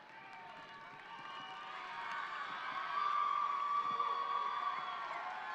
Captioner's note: audience cheering and applauding